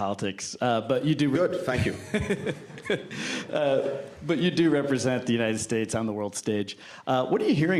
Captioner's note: laughter